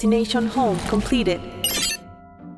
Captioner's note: soft beep